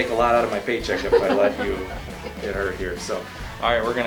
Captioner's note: laughter